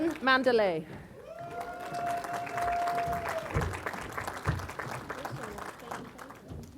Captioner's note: applause